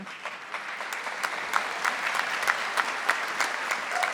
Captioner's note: audience applauding